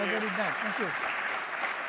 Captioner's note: applause